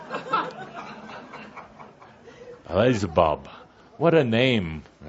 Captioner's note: audience laughter